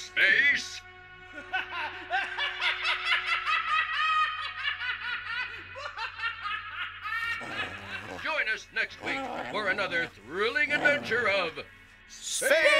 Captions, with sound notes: OOH, HE SURE LOOKS SCARY. YEAH, KEEP HIM AWAY FROM ME. [ LAUGHING ] [ LAUGHING MANIACALLY ]